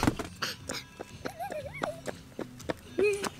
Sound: giggling

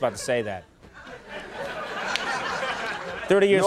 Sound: audience laughing

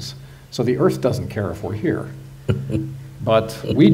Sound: Sadhguru laughs

